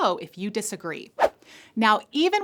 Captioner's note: air whooshing